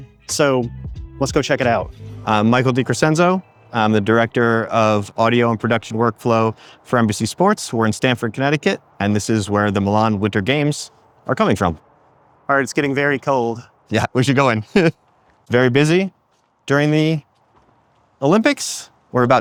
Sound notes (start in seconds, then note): 14.4 laughs